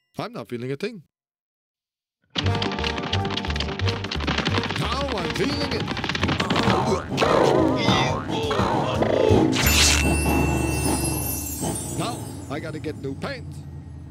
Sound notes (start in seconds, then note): 2.4 fast tapping; 6.5 grunting